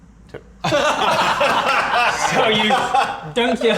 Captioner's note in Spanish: Carcajadas